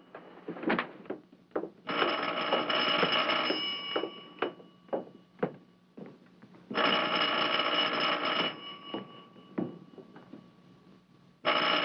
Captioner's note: phone ringing